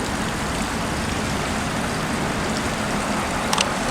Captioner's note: water Splashing, Traffic Noises